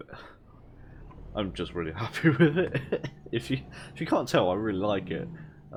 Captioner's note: laugh